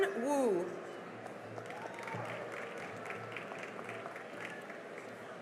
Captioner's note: cheering and applause